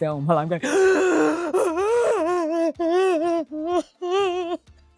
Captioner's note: loudly crying